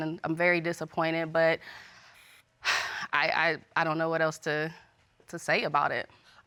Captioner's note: exhales